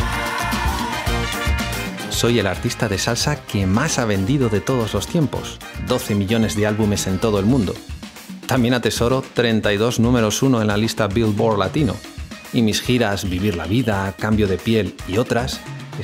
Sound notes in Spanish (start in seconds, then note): 0.5 gritado